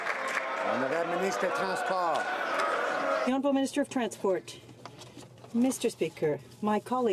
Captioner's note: some Applause